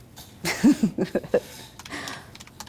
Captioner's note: chuckles